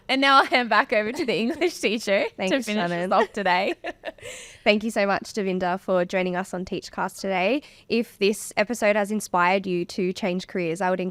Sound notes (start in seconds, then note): 0.0 laughing; 2.4 laughing